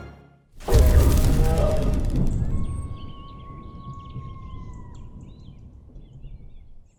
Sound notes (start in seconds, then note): 0.6 logo whooshing; 2.8 animal howling; 3.6 birds chirping